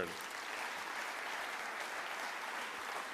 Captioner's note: applause